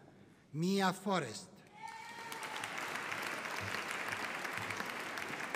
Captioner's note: audience applauding